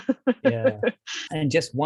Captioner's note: laughs